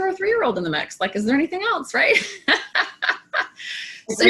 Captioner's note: laughs